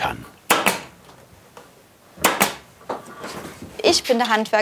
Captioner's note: stapling